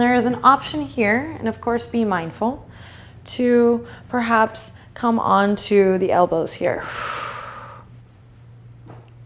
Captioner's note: breathing